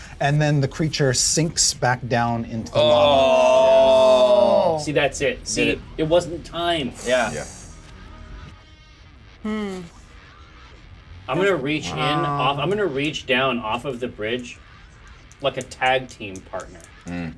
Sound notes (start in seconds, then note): 2.7 all groan; 9.4 hums